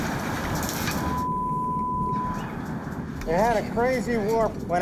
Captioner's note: beeping